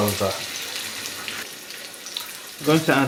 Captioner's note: sizzlin